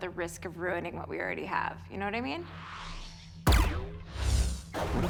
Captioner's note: system whirs